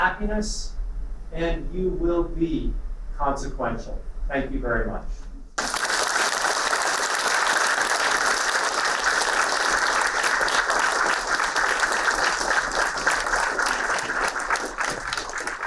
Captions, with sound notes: of happiness and you will be consequential. Thank you very much. (applauding)